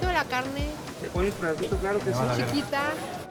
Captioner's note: speaks Spanish